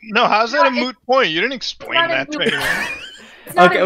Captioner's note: laughs